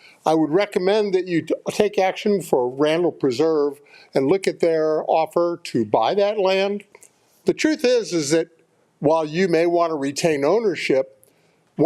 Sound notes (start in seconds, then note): none